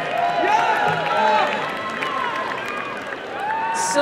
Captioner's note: applause and cheering